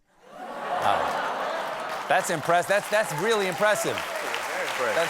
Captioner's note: laughter